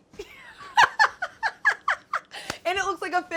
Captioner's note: laughs